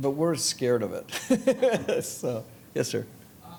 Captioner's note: laughing